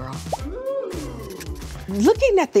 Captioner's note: crowd